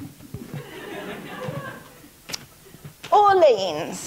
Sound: audience laughing

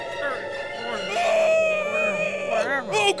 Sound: screaming

